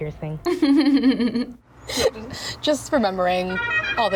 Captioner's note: giggles